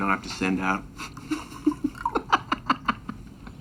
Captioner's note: laughing